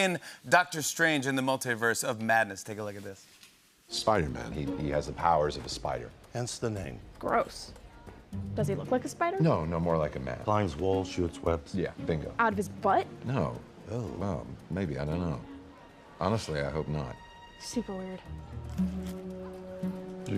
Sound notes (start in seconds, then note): none